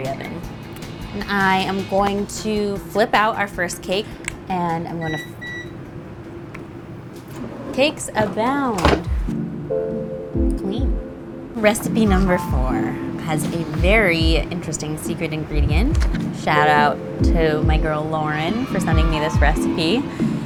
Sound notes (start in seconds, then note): 4.9 oven beeping